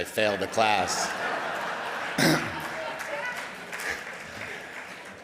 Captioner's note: audience laughing